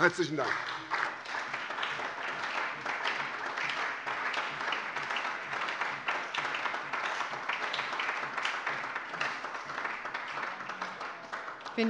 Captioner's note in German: Beifall bei der SPD